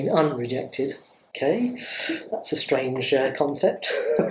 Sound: laughs

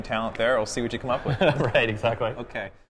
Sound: laughs

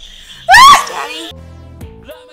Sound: laughing

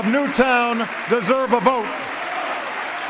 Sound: applause

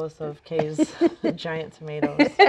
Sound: laughing

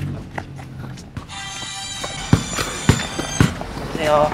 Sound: ring tone

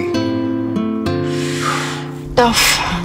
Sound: inhales sharply

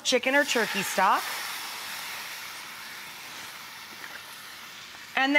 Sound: sizzling

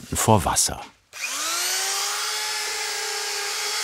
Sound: Hell whirring

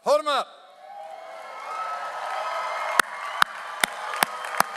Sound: audience applauds

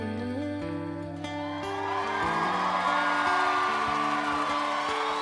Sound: audience cheers

